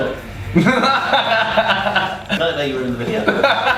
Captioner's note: laughing